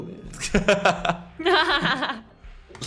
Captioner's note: laughs